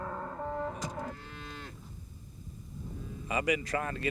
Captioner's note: cattle lowing